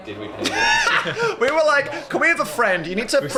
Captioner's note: laughs